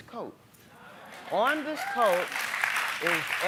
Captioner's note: applauding